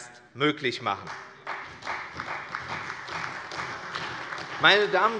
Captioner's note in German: Beifall bei der CDU und dem BÜNDNIS 90/DIE GRÜNEN